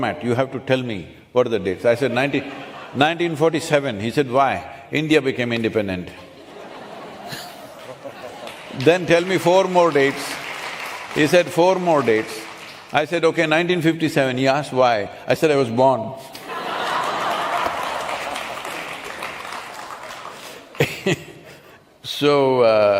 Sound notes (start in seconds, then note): 2.1 few laugh; 6.2 laughter/Applause; 20.3 laughter/Applause